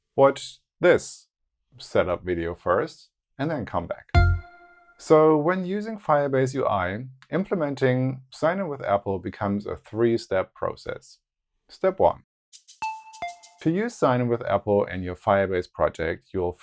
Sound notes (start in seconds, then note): 4.1 note sounds; 12.8 notes sound